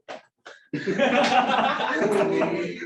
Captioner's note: laughter